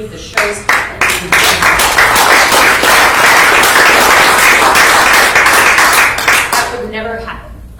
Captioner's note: applause